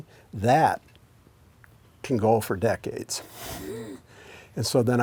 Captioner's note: chuckles